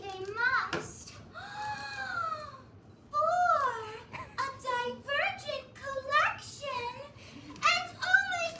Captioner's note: gasp